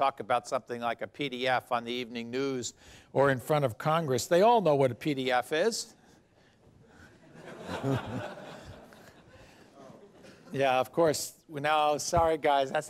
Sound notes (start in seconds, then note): 7.2 laughter